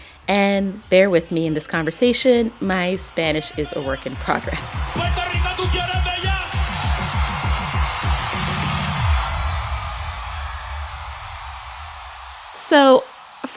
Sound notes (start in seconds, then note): 4.5 soundbite of archived recording; 9.4 speaking Spanish; 11.0 cheering